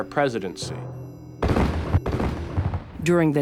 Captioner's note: gunfire